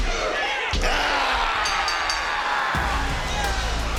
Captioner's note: bell rings; upbeat music